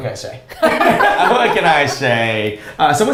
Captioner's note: both laughs